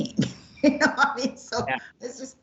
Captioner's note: laughs